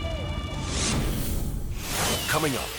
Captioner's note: logo squishes